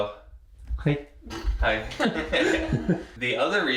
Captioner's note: laughing